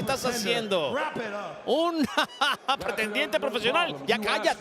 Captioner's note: laugh